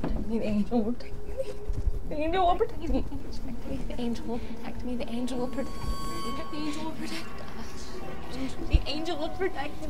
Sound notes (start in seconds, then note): 0.2 object thuds; 5.8 suspenseful music; 7.6 gasps